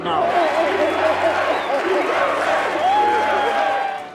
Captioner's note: todos cantando "EUA"